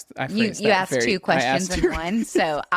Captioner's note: laughs